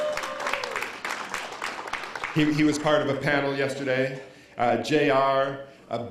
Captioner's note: cheers & applause